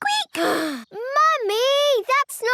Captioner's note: sighs